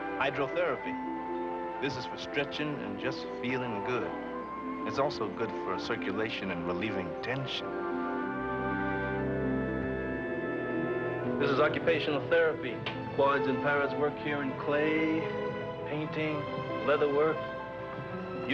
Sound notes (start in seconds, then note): none